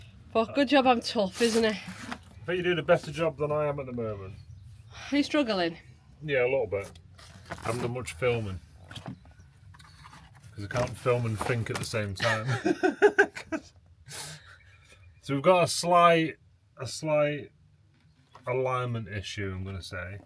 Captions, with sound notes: Well, good job I'm tough, isn't it? think you're doing a better job that I am at the moment. Are you struggling? Yeah, a little bit. I haven't done much filming. Because I can't film and think at the same time. (laughing) So we've got a slight alignment issue, I'm gonna say.